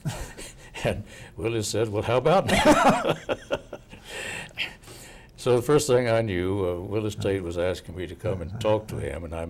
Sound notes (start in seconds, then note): 3.5 laughing